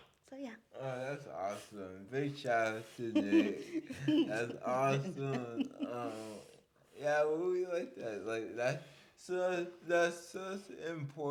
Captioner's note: laughs